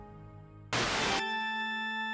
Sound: static

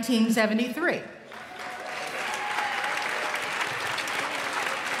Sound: applause

